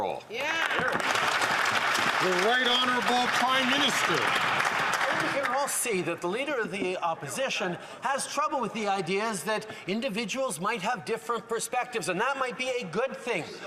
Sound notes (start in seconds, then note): 3.8 some Applause